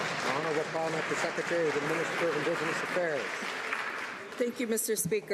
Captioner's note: some Applause